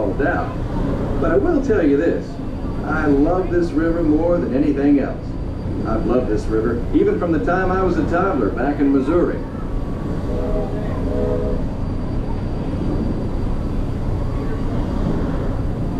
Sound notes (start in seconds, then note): 8.9 steam whistles